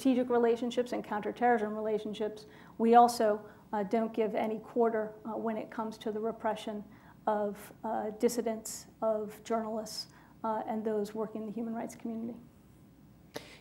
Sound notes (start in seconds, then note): none